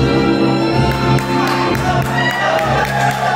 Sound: audience cheers

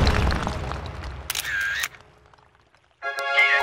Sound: camera shutter

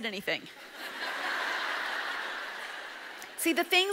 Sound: audience laughs

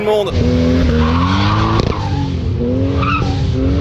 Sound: tyres screech

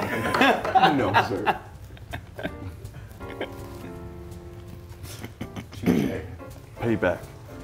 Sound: laugh

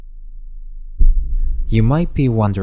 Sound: boom sound effects

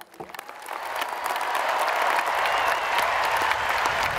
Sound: cheering and applause

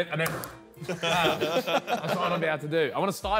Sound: all laughing

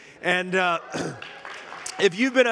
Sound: congregation applauding

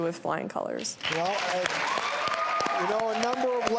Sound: applause and cheering

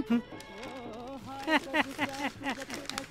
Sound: Sonavane Laughs

